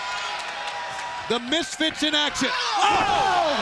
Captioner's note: crowd cheering